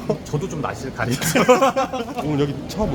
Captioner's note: laughs